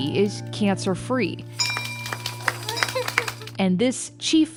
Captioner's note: bell ringing